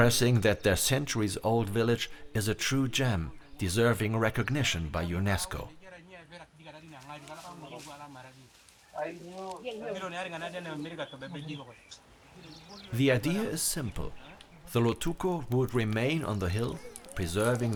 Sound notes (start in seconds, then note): 6.6 people chatting